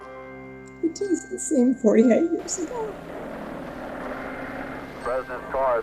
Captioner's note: crying